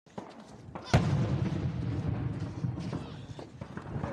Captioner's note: explosion